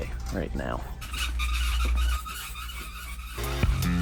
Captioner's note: squeaky squeaky